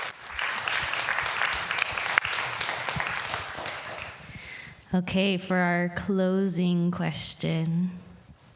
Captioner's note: applause